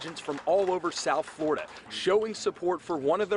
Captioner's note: applause